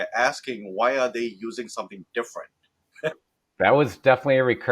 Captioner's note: laughs